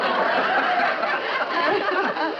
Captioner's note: laughter